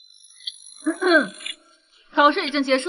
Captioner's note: ahem